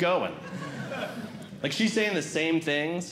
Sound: audience Laughing

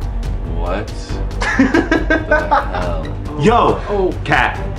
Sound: laughter

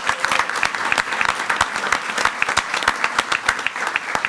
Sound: everyone applauding

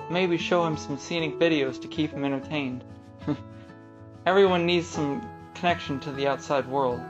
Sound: chuckles

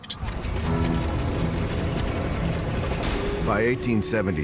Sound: train chugging

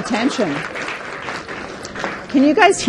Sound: participants clapping

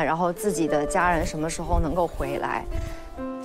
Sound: sample 3: The sound of removing hazmat suit

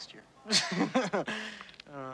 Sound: Todd laughs

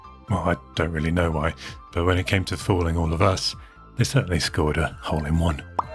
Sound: boo

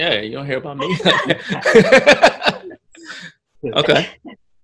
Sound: laughs

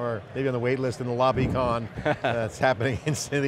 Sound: laughs

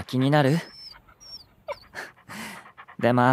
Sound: worried whine

